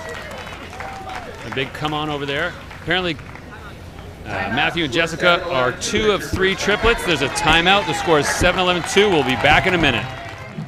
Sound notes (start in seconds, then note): 0.1 crowd cheers; 6.7 crowd cheers